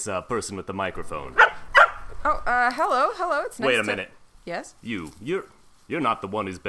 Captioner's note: barks